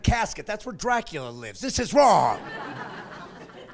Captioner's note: laughing